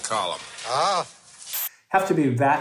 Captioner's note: static hissing